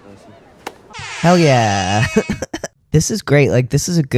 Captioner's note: air horn